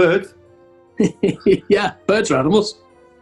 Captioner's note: chuckling